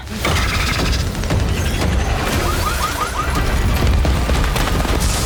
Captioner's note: siren wailing; glass shattering